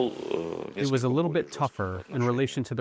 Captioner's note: through translator